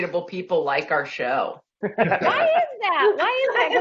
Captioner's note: laughing